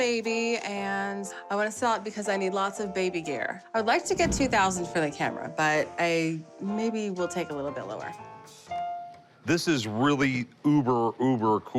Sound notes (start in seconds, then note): none